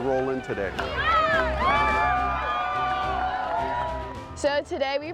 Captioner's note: cheering and applause